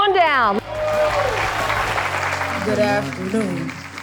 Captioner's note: audience applauding